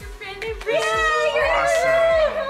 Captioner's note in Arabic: البنات يهتفون